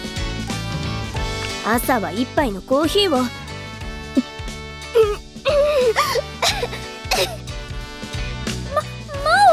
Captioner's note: gulp